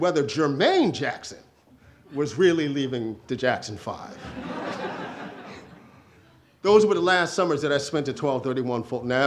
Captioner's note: audience laughter